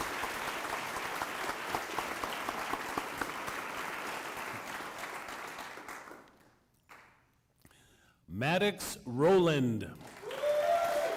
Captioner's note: applause